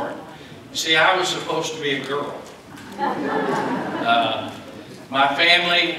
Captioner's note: laughter